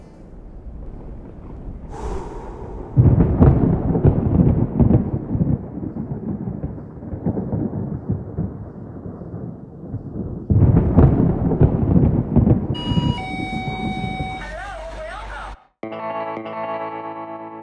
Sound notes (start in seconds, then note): 0.1 rumbling; 2.9 thunder